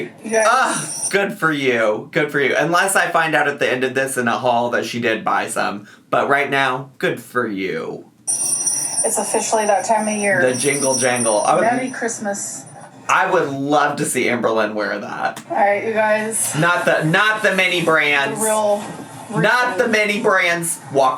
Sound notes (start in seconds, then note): 8.4 bells jingling